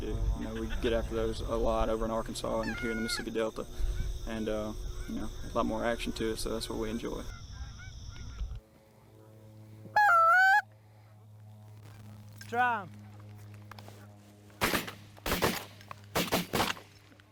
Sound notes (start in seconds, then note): 8.4 geese squawk; 14.6 gunshots blare